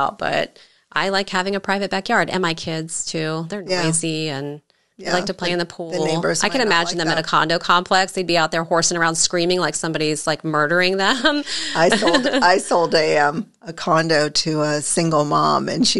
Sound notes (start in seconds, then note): 11.3 chuckles